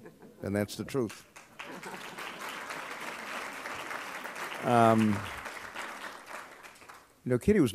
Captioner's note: applause